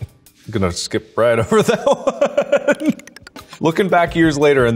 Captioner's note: laughs